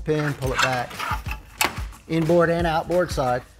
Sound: machinery scrapes

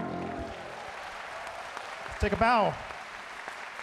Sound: audience cheering and clapping

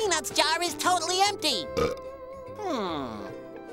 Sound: belching

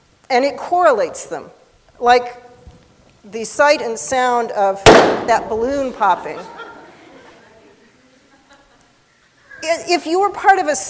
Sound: pop

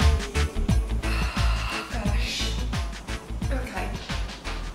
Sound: upbeat reggae music; sighs

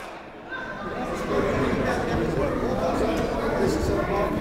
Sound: chatting

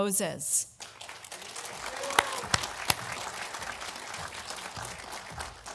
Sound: audience applauding

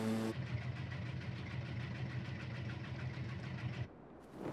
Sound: washing machine rumbling

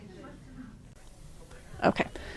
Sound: women softly conversing

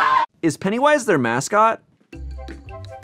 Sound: all mimic a theme song; voiceover; jaunty music

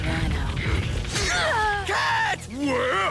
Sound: Black Cat groans in pain

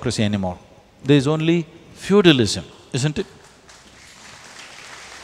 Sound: applause

